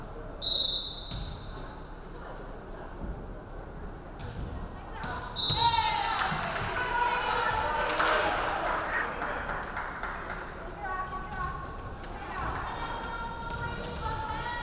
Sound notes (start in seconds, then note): 0.4 referee whistling; 5.3 referee whistling; 5.7 crowd clapping